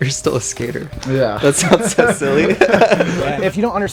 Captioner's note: laughing